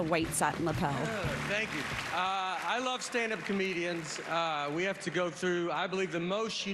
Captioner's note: applause